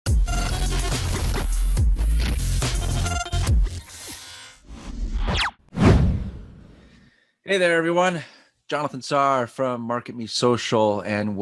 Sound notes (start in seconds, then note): 0.1 upbeat music; 5.7 air whooshing